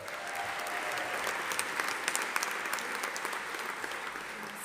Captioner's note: audience applauding